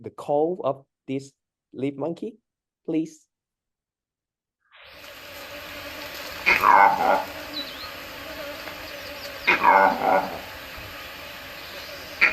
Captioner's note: alarm Call sound